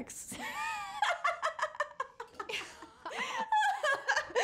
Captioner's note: laughs